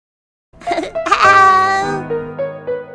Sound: Teletubby speaking

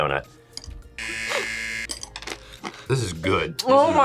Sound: buzzer

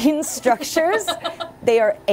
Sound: laughs

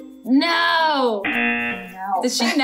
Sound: buzzer rings

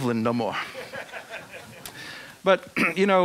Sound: audience laughing

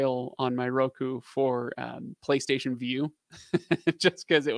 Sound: laughing

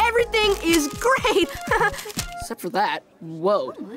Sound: laughs

